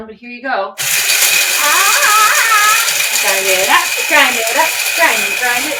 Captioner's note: grinders whirs loudly